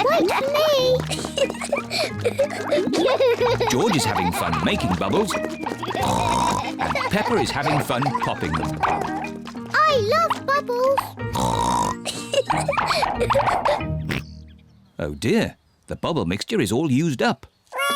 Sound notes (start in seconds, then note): 1.1 both laugh; 6.0 oinks; 11.3 oinks and giggles; 13.9 oinks